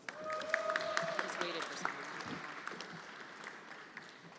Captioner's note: everyone applauding